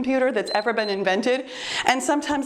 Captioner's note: timer beeps